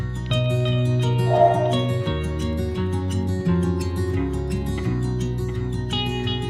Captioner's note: plane